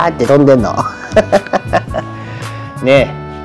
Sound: laughs

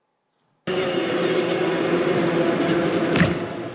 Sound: sound of wind

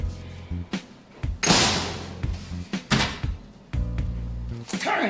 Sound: upbeat music; door slams

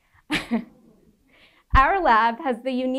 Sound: laughing

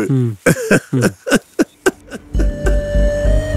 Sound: laughing

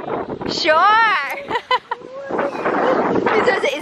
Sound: laughter

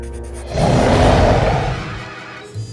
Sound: roars

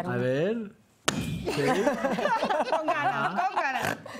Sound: Risas

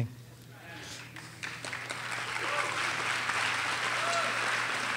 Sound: audience applauding

